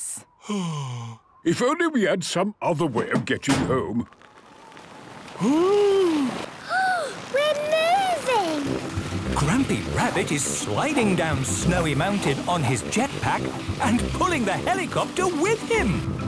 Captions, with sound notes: - Oh... If only we had some other way of getting home... - (clangs) - (sliding) - Oooh! - (Peppa gasps) We're moving! - Grampy Rabbit is sliding down Snowy Mountain on his jetpack, and pulling the helicopter with him!